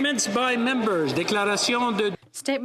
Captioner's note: applause; speaking French